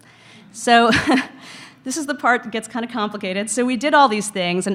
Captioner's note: chuckles